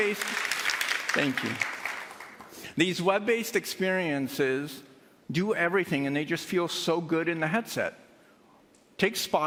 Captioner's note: cheersandapplause